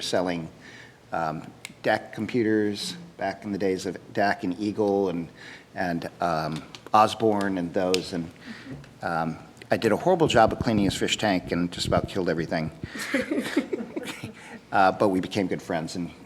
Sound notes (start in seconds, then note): 12.8 laughing